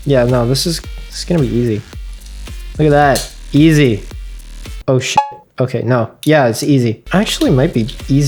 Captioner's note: donk